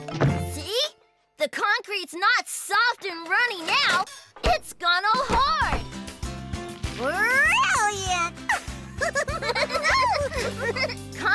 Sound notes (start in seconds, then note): 6.1 tapping; 8.4 both Laugh